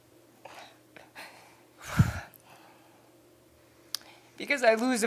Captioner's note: deep breath